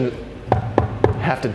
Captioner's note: knocks on wood